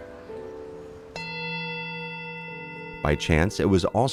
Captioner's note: ringing